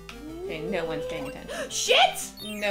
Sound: gasp

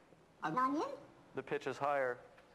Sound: foreign language spoken in higher pitch

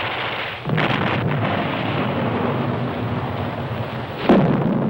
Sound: explosion booming

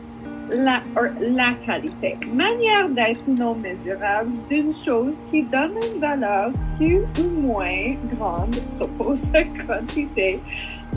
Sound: speaking french

